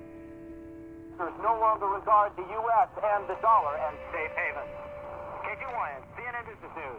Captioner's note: man, on radio